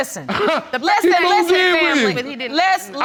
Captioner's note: chuckles